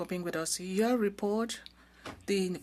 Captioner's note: speaking French